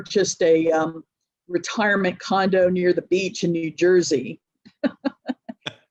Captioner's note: laughs